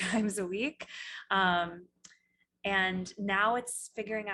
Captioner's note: laughs